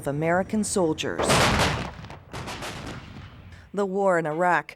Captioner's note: explosions